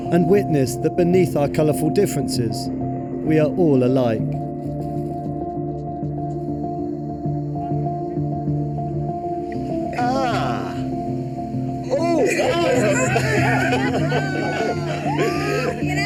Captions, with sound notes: and witness that beneath our colorful differences, we are all alike. (groans) (laughs)